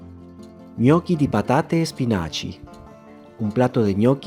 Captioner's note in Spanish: in Italian